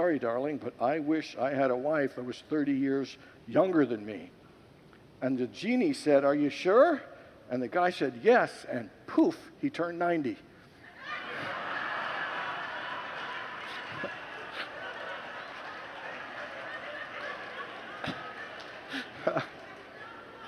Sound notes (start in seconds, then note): 10.9 congregants laugh